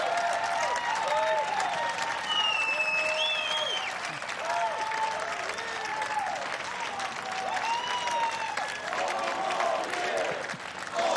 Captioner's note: cheers and applause